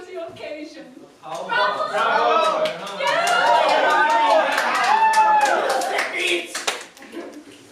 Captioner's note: bravoing and applause